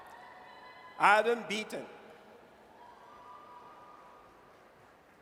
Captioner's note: audience cheers